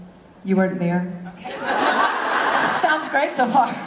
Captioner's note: laughter